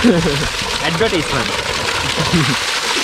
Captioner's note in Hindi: हंसते हुए